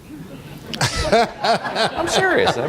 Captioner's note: laughter